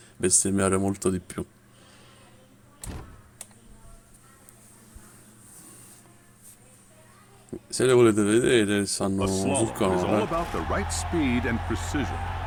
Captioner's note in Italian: Applauso